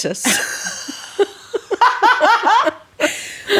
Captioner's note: laughing